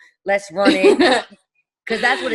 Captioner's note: laughing